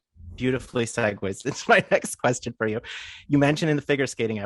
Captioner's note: laughing